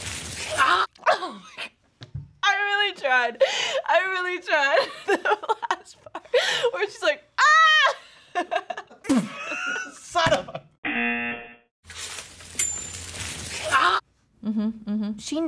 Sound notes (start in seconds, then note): 1.6 laughs; 8.2 laughs; 10.9 buzzer